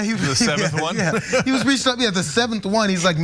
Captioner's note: laugh